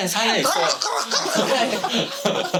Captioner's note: losing breath